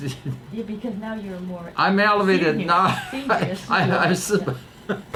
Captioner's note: laughs